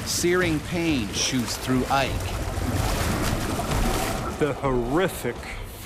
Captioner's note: voiceover